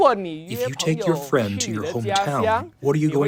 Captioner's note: through translator